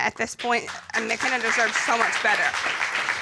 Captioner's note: applause